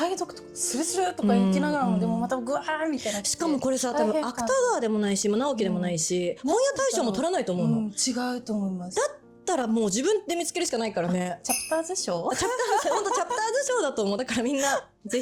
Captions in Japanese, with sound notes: サイドとかするとか行きながらでもまたぐわーみたいな。 しかもこれさ、多分アタ川でもないし、も直きでもないし、翻屋対象も取らないと思うの。 うん。違うと思います。 だったらもう自分で見つけるしかないからね。 チャプターズ賞。 あ、チャプターズ。本当チャプター図賞だと思う。だからみんな是非読んでみてください。 [笑い]